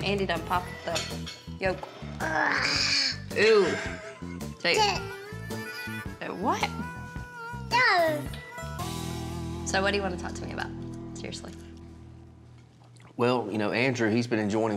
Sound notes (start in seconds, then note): 3.2 gasping; 3.5 laughs